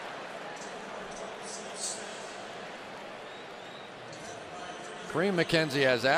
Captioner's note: pa announcement